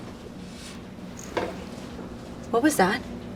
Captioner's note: distant thud